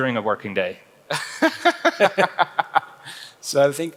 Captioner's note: laughs